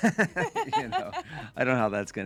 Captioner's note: laughing